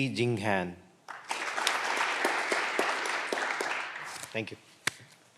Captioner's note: clapping continues